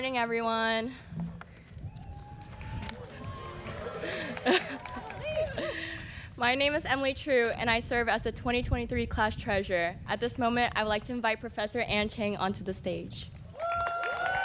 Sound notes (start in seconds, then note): 4.1 students cheering